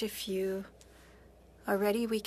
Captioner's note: speaking FRENCH